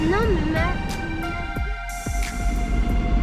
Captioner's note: ambient engine sounds